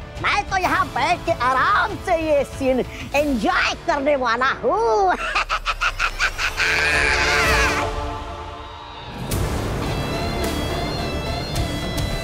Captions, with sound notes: I am just going to sit here comfortably and enjoy this scene. [giggles] [inspirational music]